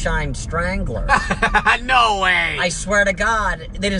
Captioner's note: laughing